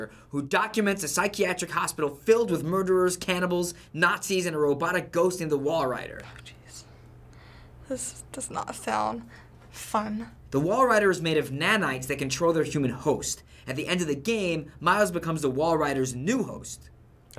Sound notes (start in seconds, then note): 6.0 whispering